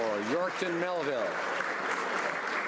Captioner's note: some Applause